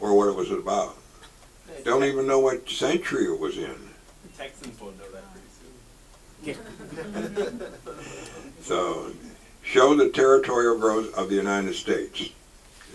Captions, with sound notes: or what it was about. They don't even know what century it was in. - Texans will know that pretty soon. (audience laughs) - Show the territorial growth of the United States.